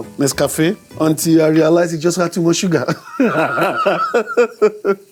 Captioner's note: laughs